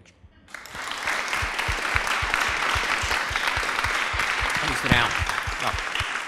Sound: applause

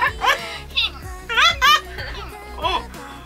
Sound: sighing

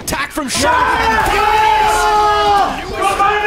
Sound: screaming!

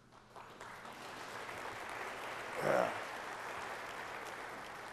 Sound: applause

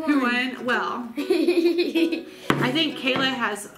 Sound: laughs

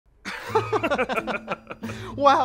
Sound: laughing

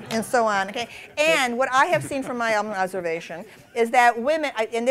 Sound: laughter

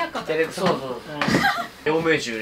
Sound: laughter

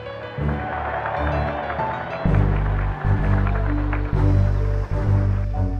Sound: applause

